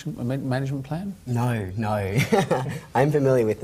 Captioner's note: laughs